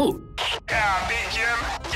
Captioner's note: Engineer Joe on loudspeaker